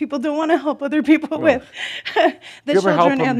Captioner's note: she chuckles